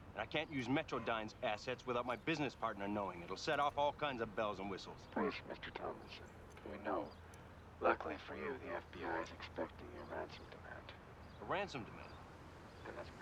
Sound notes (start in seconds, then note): none